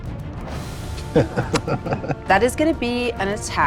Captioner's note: laughs